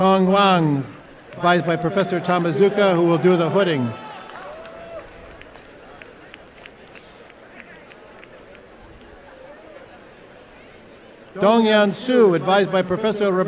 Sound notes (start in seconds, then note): 4.0 applause and cheering